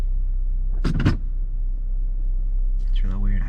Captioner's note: handbrake thuds